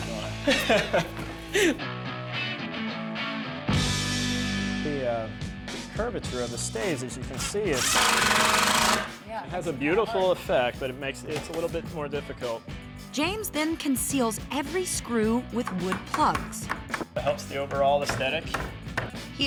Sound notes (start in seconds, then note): 0.4 laughter; 7.3 drilling